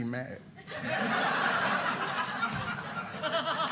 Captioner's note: audience laughing